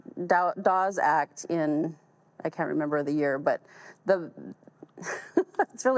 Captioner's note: chuckles